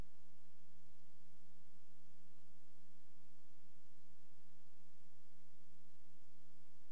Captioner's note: none